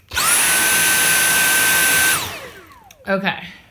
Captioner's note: vacuum noises